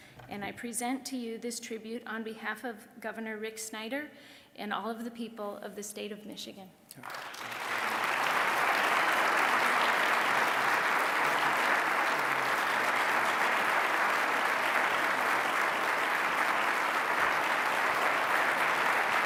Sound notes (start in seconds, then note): 6.9 applause